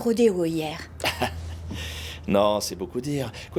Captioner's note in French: Rires